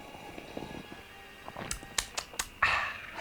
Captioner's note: lips smacking